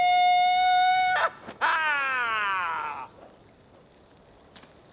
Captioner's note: birds chirping